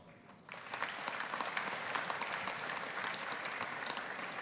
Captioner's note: audience applauding